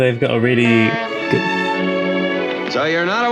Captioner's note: horn honks outside